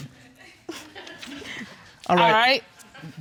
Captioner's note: audience sniggering